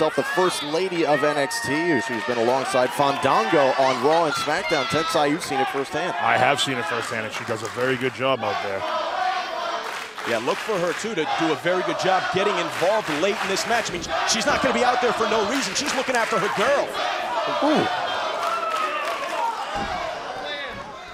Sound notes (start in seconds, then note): 10.5 crowd cheering